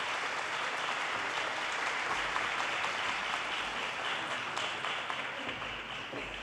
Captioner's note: audience cheers and applause